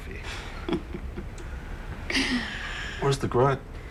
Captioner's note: laughs